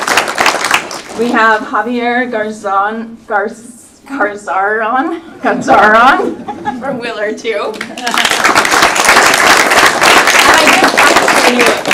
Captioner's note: applause